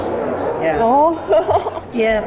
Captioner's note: awkward laughter